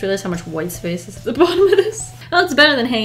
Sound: laughs

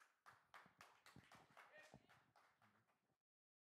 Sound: applause

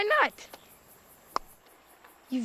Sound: clicks tongue

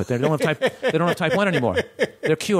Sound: laughter

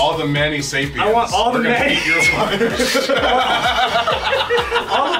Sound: laugh

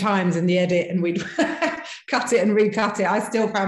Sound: laughing

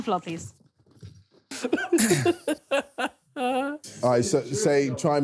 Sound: laughing

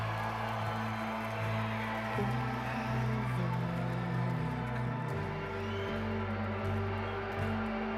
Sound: cheers and applause

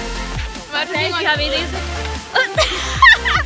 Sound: vomits like a pig; laughing and other vomitting

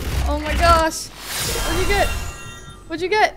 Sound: fuse machine dings

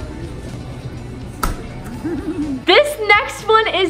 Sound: giggles

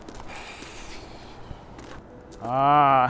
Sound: waiter sighs; laughs excitedly

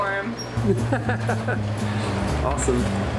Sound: laughs

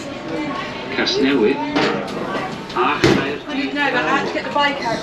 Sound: automated announcement in background

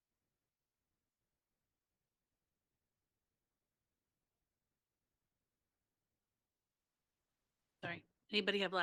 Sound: silence

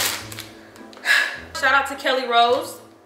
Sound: sighs

